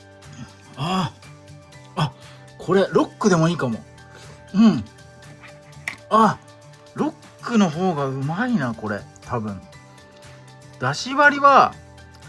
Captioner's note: laughs